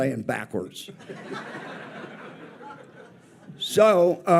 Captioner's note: audience laughs